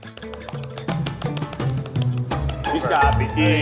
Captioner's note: light patting